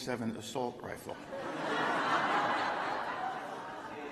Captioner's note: laughter